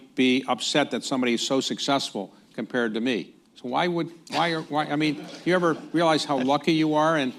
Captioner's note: laughter